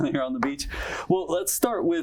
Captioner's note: chuckles